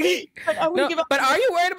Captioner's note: laughing